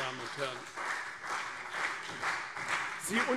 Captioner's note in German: Beifall CDU und BÜNDNIS 90/DIE GRÜNEN